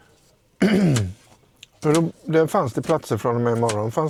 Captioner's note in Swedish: harklar sig